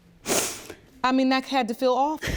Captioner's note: sniffs